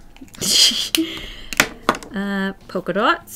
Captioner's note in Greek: Γέλια